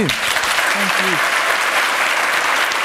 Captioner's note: applause